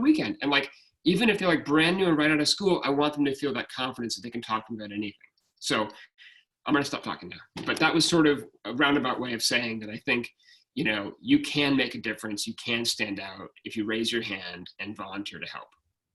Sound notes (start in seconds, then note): 4.8 speaking faintly